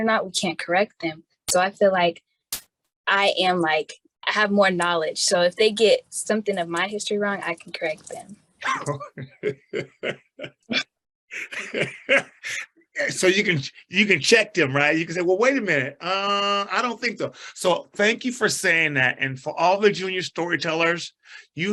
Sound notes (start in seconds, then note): 11.3 chuckles